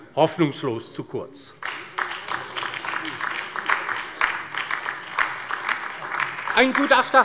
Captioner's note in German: Beifall bei der LINKEN